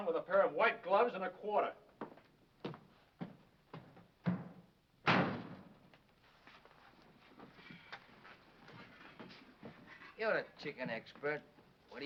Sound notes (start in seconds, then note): 5.0 door slams